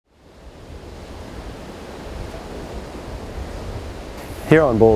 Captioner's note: rising sound of crashing waves